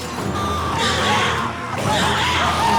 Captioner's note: screaming continues; shrieking